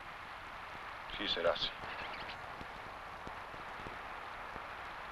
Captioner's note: speaking foreign language